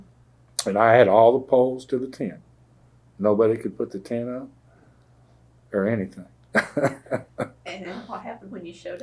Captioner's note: laughter